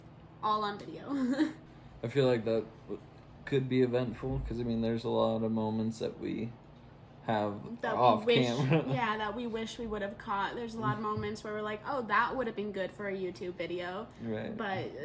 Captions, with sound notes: All on video. (laughs) - I feel like that could be eventful 'cause, I mean, there's a lot of moments that we have off camera. - That we wish... (laughs) Yeah, that we wish we would have caught. There's a lot of moments where we're like, oh, that would have been good for a YouTube video. - Right. - But,